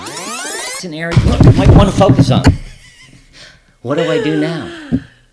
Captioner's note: audio playing fast reverse; chair crashes